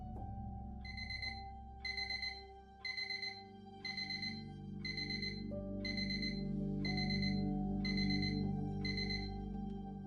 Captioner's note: alarm ringing